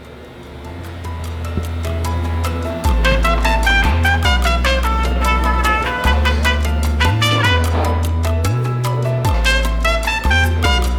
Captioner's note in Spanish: sonidos de taller